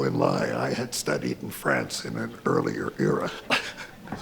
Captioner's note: chuckles